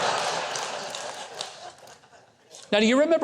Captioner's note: audience laughing